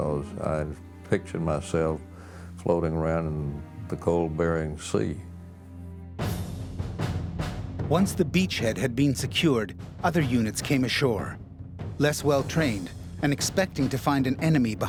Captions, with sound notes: in the cold Bering Sea. - [Voiceover] Once the beachhead had been secured, other units came ashore. Less well trained and expecting to find an enemy behind every rock.